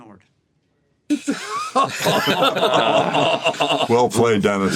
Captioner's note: all laugh